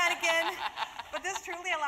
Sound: laugh

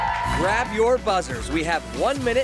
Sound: cheers

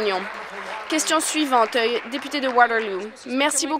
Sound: applause

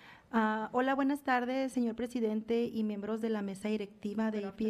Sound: foreign language

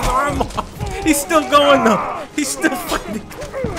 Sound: laughing

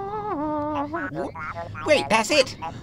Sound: record scratch

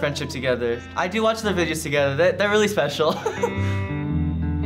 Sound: laughs

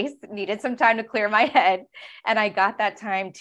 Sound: laughing

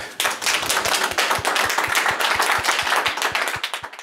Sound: audience applauds

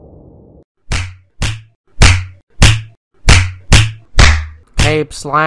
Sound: slapping sounds

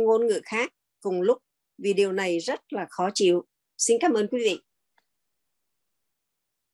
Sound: continues speaking in Vietnamese

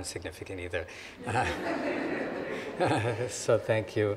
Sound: audience laughing

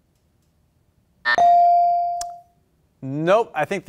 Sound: beep; buzzer

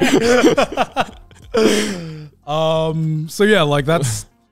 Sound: all laughing

